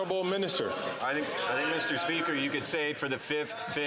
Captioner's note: chatter